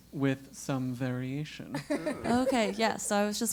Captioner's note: laugh